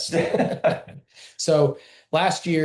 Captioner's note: laughter